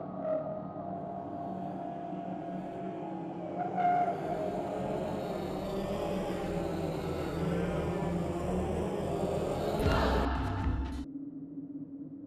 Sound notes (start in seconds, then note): 0.0 angelic sounds; 2.3 Demonic voices